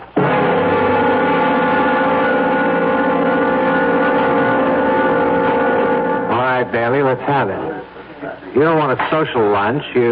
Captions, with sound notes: [HORN HONKING] All right, Bailey, let's have it. You don't want a social lunch.